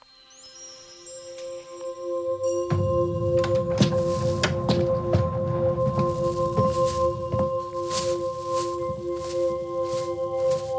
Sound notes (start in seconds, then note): 3.2 door opening and footsteps sounds; 7.7 plastic bag crinkle